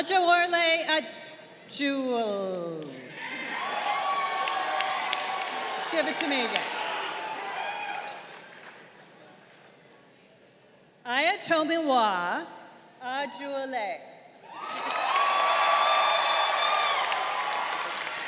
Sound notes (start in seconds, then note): 3.1 crowd cheering; 14.4 crowd cheering